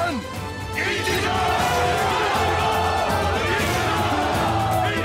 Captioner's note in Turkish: Hep bir ağızdan